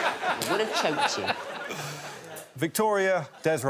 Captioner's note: all laughing